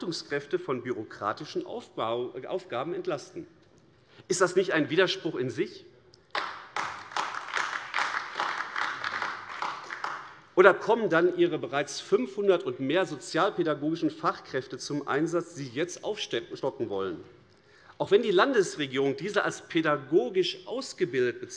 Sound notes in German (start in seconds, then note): 6.3 Beifall AfD